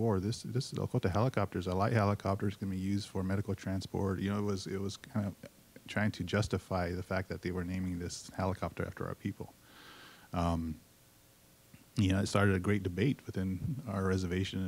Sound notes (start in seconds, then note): none